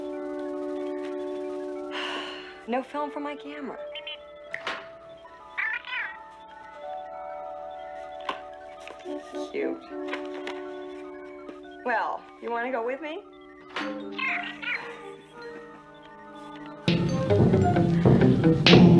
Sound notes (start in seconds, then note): 1.9 sighs; 4.4 Steve Trevor snaps his Fingers